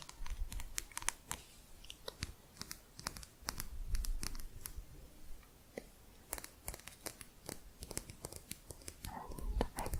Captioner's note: quick tapping